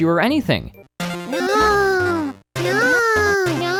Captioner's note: in a bad Kim Kardashian voice